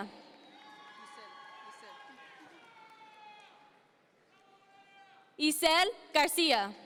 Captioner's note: audience members cheer